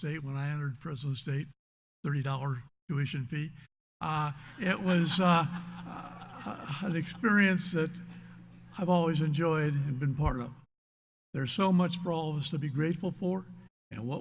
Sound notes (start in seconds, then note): 4.1 audience laughs